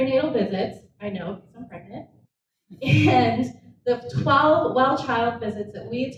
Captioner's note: laughs